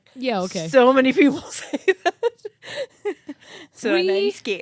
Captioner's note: laughs